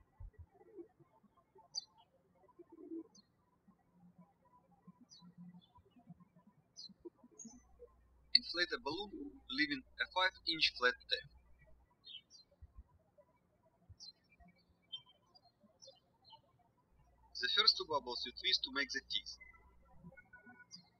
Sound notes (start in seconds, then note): 0.1 birds chirping; 12.4 birds chirping; 20.7 birds chirping